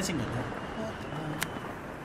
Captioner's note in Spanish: Susurra